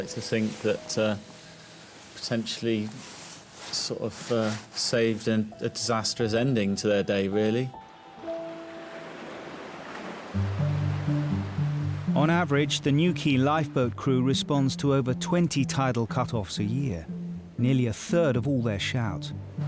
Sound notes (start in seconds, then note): 8.7 water sloshes; 10.5 gentle music